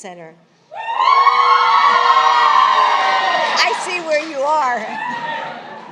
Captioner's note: applause